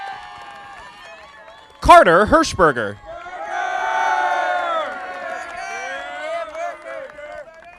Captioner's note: audience applauding